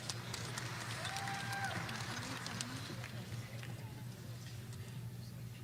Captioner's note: audience applauding